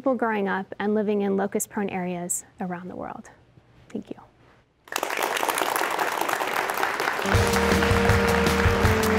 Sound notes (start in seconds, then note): 4.8 applause